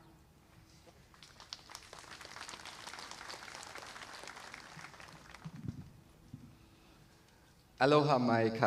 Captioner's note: applause